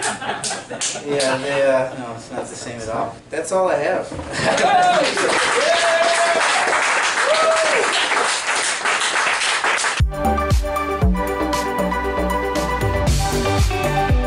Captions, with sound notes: No it's not the same at all. That's all I have. (audience cheering) (upbeat music)